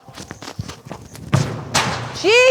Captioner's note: footsteps